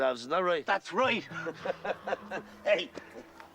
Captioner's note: Risas